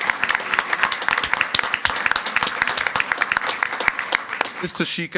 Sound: everyone applauding

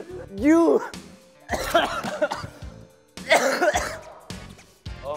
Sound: cough Cough

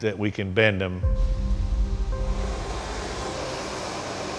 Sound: fire roaring

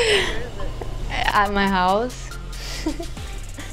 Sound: laughs; laughs

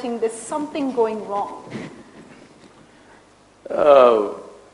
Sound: Sadhguru laughs

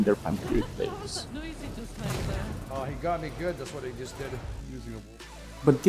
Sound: players chatting in-game

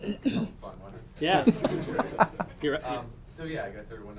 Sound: audience laughing

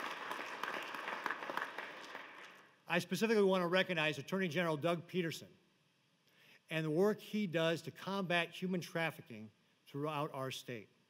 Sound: applause

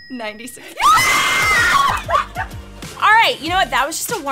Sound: both cheering

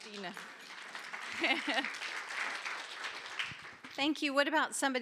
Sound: applause

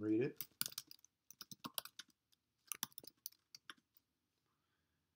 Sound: keyboard typing

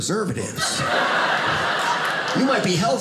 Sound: audience laughing

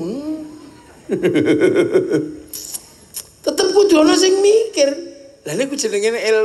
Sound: laughs

